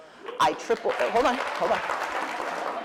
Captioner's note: applause